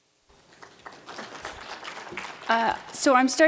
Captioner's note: applause